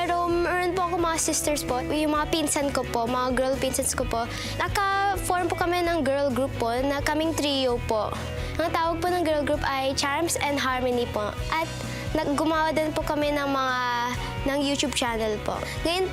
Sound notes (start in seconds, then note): none